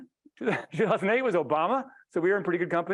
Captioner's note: laughing